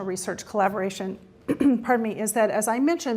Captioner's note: clearing throat